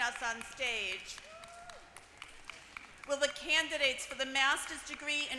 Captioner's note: applause